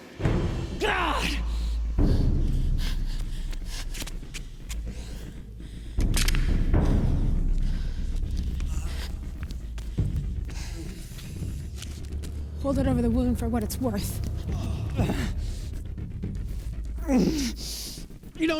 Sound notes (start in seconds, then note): 2.2 panting; 6.8 suspenseful music